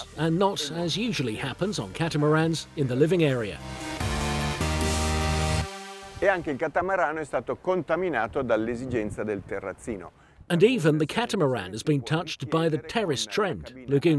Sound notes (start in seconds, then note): 3.8 upbeat techno music; 6.3 in foreign language